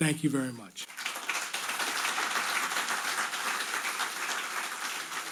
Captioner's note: audience applauding